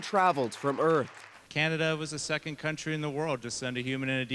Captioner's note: cheers and Applause